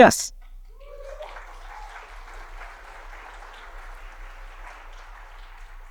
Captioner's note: audience cheers and applauds